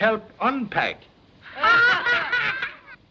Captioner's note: laughter